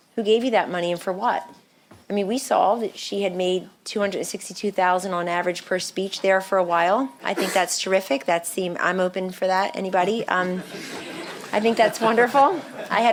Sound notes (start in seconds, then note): 10.5 chuckling